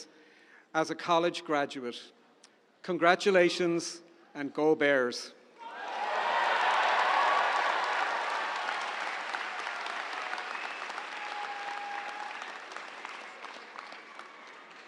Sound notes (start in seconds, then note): 5.6 audience cheering; 5.8 audience applauds